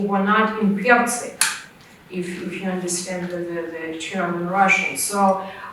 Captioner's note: russian